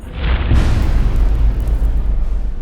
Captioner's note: impact